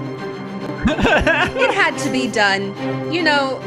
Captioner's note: laughing